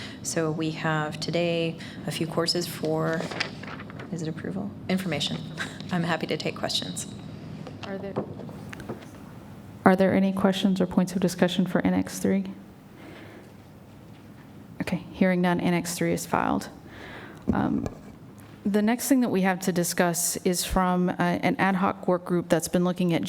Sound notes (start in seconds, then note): 13.1 silence